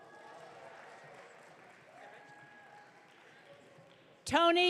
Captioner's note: audience cheering